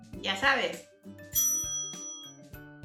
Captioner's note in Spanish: sonido de campana: ringg